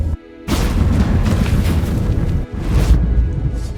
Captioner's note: portal thunders, then silences